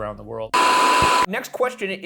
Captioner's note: static hisses